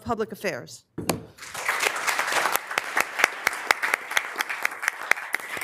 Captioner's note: members applauding